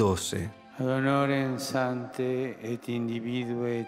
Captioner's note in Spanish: Papa Francisco, en italiano